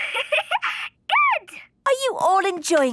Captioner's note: giggling